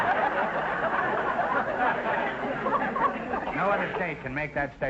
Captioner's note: audience laughter